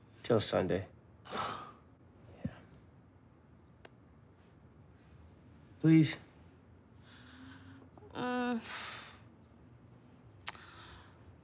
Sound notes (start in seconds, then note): 1.3 Maddie sighs; 8.1 Maddie groans